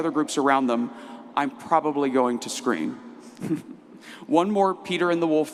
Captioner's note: laughs